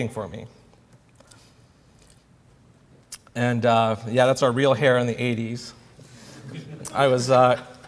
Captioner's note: laughter